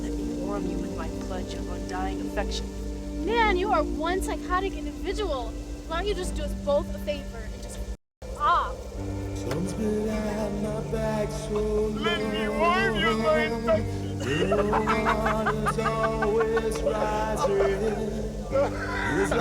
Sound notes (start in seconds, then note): 14.9 both laughing